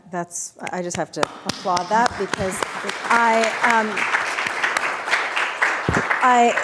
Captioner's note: audience applauding